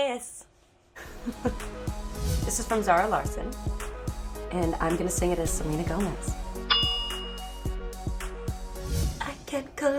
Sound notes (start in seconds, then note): 0.9 laughs; 6.6 ding